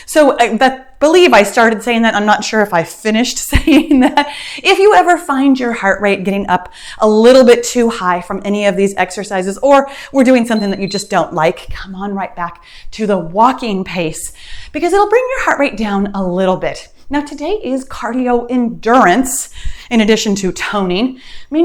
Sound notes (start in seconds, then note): 10.4 timer beeps